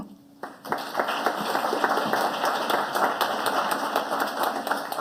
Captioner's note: audience applauding